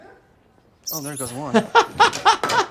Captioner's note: rat squeaks; laughs